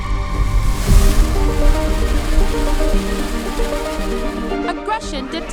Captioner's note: wings fluttering; wings whooshing